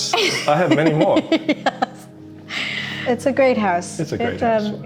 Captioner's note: giggles